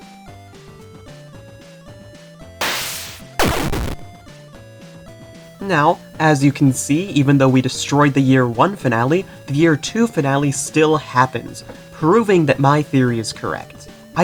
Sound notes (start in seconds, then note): 2.6 teleport Noise; 2.6 explosion Noise